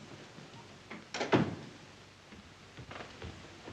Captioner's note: door closes